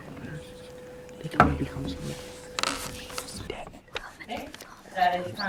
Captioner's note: students whisper